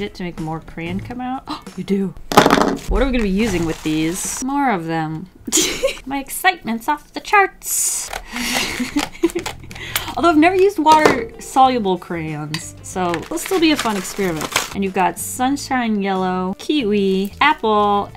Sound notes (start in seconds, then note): 5.2 laughs; 5.8 sarcastically; 8.3 laughs